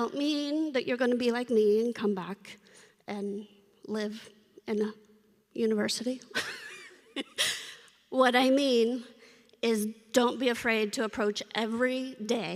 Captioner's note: laughter